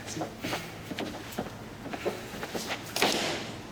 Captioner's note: footsteps